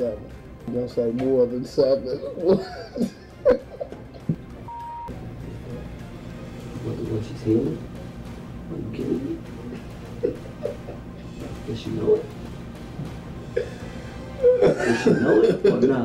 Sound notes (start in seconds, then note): 2.4 laughing; 4.6 beeping; 9.6 laughing; 13.4 laughing